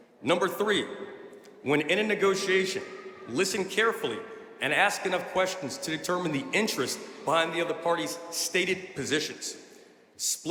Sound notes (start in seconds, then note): none